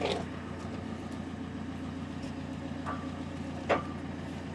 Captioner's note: engine whirring